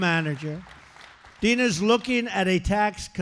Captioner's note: applause